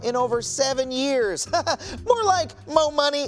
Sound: laughing

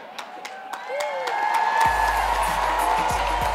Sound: cheers

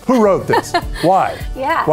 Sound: laughs

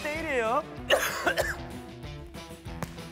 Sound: cough

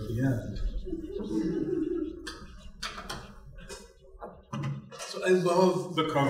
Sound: laugh

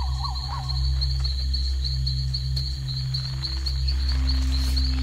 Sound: chirping; chirping and hooting; scrunching

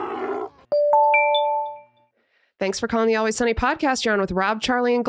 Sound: digital chiming

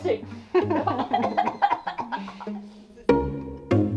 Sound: laughter; bouncy string music

